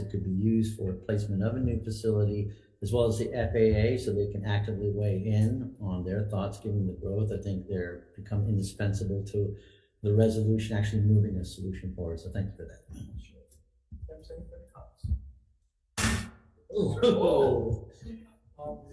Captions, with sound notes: that could be used for a placement of a new facility as well as the FAA, so they can actively weigh in on their thoughts. Given the growth, I think they're become indispensable to the resolution actually moving a solution forward. So thank you for that. - Anybody else? (loud thud) - Oh. - Whoa.